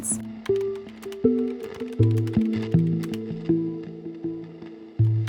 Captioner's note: keyboard clicks